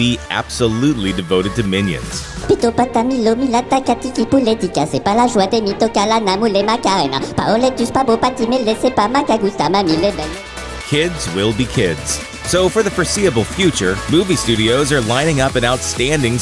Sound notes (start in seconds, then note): 2.7 Minion language